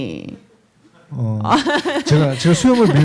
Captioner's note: laughs; speaking korean